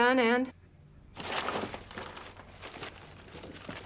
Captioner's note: rustling